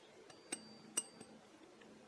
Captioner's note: ding ding, ding ding